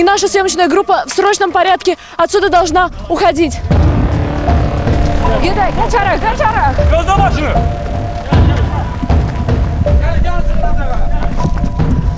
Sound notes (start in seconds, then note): 3.2 troubling music; 3.8 speaking Azerbaijani